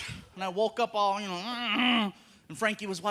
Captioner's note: groaning